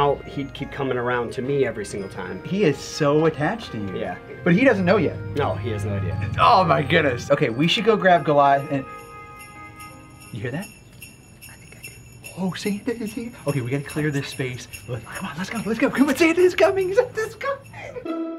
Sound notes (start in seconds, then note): 9.1 bells jingle